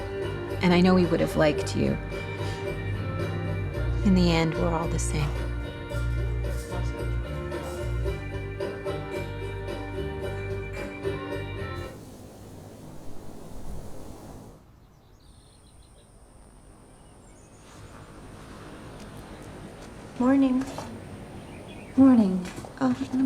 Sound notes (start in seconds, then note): 15.2 birds chirping